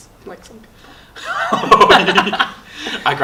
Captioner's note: laughing